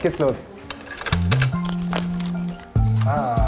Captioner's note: Schlüsselgeräusch